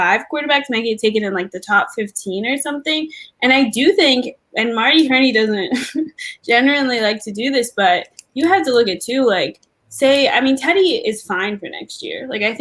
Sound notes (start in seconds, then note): 5.7 laugh